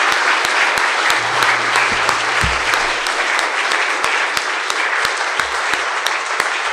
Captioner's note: attendees applauding; attendees continue applauding